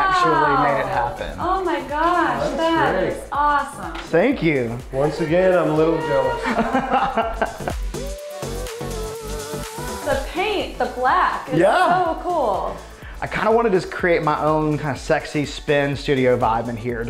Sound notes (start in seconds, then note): 6.2 laughing